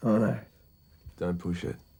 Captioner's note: none